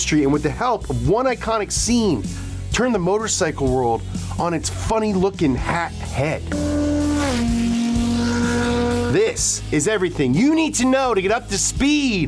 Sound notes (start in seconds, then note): 6.6 motor cycle roars